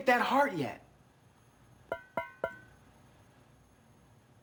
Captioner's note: knuckles ping